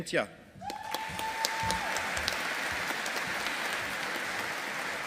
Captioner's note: audience applauding